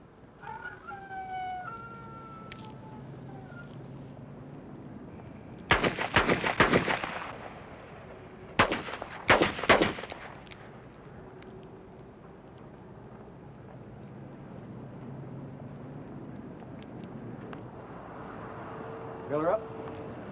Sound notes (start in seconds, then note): 0.4 rooster crows; 6.2 gun shots